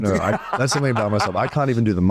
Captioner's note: Colman laughing heartily